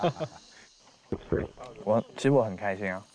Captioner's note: gulp